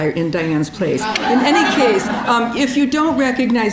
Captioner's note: audience laughing